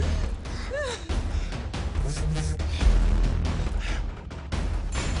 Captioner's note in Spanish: Gemidos